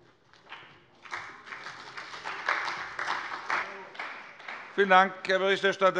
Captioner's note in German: Beifall bei der CDU und dem BÜNDNIS 90/DIE GRÜNEN